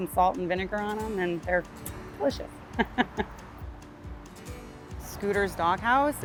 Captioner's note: chuckles